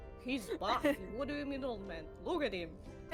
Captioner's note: laughs